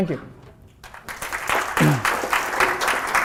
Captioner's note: applause